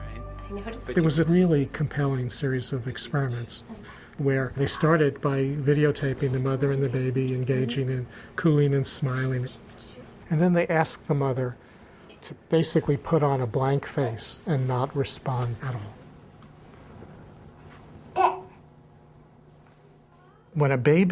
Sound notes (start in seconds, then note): 18.1 baby cooing